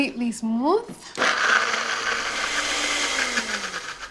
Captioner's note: whirring; whirring stops